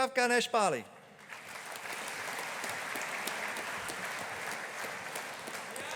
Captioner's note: audience applauding